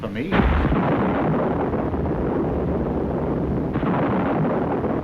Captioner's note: thunder roaring